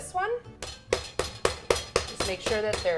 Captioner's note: meat mallet pounding